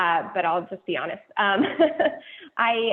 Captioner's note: laughing